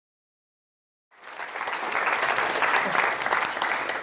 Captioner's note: applause